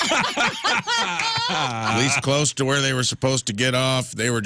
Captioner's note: laughing